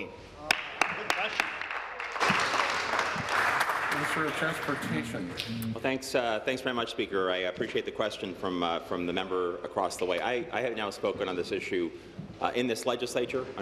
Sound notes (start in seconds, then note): 5.1 applause